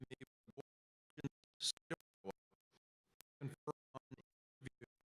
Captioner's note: audio cuts out